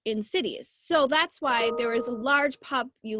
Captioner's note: computer dinging